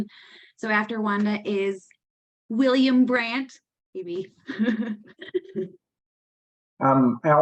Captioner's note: laughs